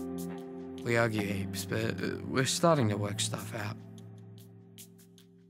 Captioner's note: voiceover